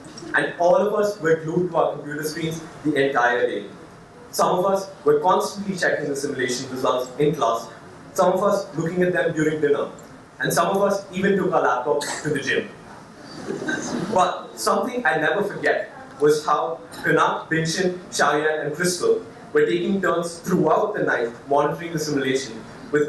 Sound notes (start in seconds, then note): 13.2 audience laughs